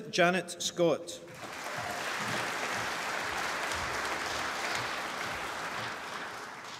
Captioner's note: applause